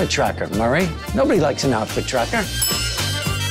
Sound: bell dings

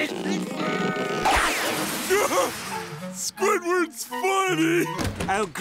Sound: laughing

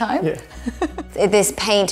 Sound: chuckles

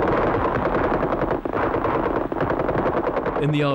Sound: guns firing

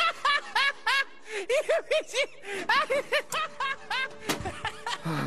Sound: laughing

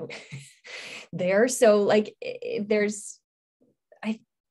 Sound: stammering

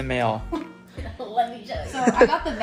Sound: laughs

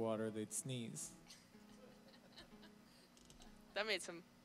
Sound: laughing

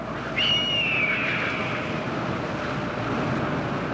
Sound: wind whips, eagle calls out

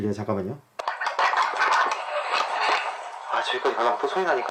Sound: crying

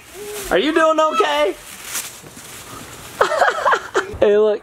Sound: laughs

